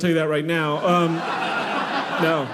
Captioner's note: audience laughing